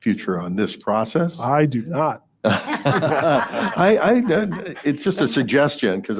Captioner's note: everyone laughing